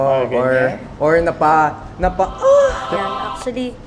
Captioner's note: moan